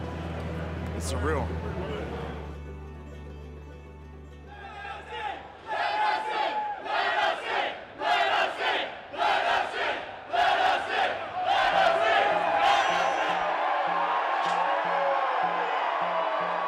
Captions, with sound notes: it's surreal. (tense music continues) (crowd chanting "Let Us In") (crowd cheering)